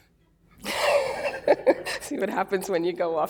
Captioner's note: laughter